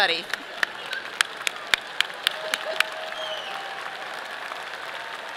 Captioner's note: audience applauding